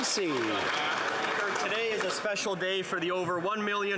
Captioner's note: some Applause